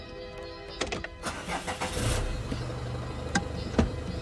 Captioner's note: starts engine